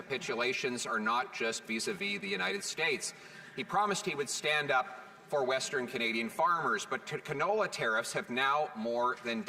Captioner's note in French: voix de l'interprète